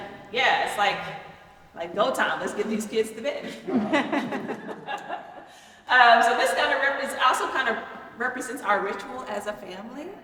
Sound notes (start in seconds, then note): 5.3 people laughing